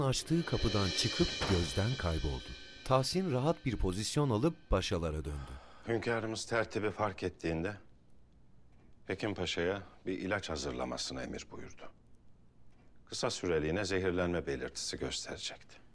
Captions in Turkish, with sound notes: (Kapı kapanma sesi) Hünkârımız tertibi fark ettiğinde... ...Hekim Paşa'ya bir ilaç hazırlamasını emir buyurdu. Kısa süreliğine zehirlenme belirtisi gösterecekti.